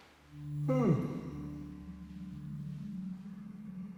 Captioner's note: Danny yawns